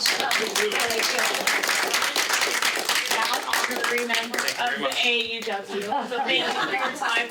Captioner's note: audience applauding